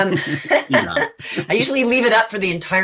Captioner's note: chuckles